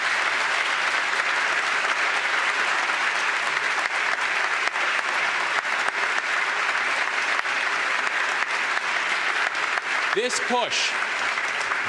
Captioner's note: applause